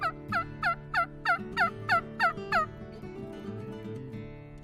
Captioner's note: turkey call